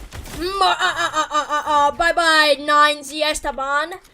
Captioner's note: laughs maniacally